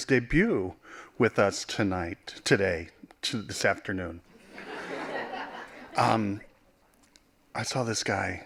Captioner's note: laughing